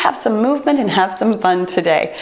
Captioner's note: timer beeps